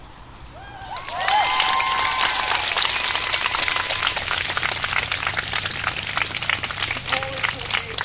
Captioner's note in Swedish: Jubel och applåder